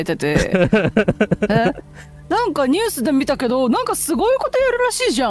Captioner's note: laughter